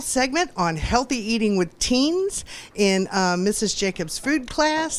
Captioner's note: none